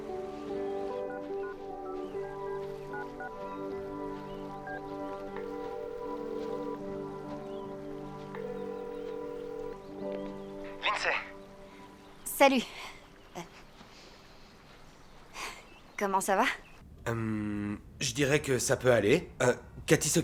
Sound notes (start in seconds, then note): 1.5 dialing phone number; 5.4 dial tone